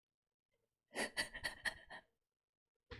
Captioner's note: laughs